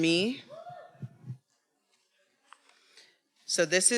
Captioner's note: attendee cheering